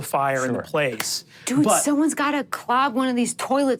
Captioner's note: claps